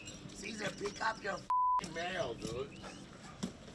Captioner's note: beep